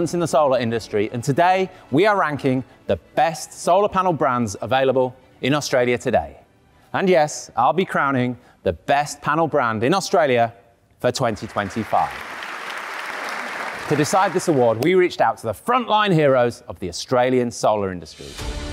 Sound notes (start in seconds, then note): 11.4 audience applauding; 18.1 upbeat music